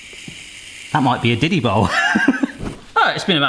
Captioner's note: laughs